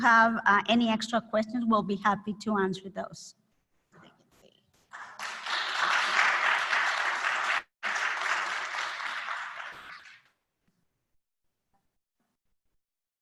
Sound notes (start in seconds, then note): 3.2 applause